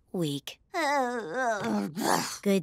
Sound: sighing

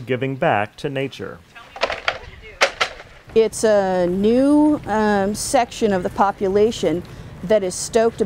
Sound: clattering of plastic trays

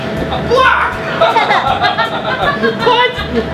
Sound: laughs

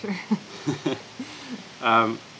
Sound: laughter

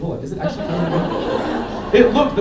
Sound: laughter

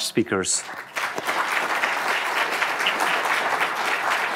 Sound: audience applauding

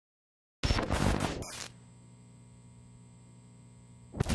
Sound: electronic glitching

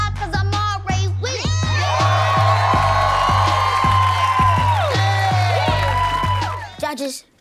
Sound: cheering

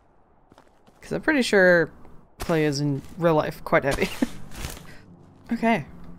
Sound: laughs

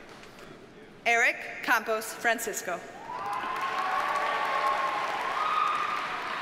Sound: audience cheers and applauds

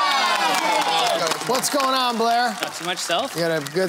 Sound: cheering

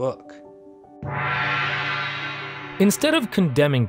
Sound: gong rings

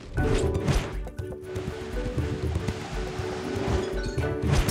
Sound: wind gushing

